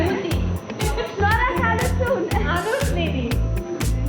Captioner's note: in Armenian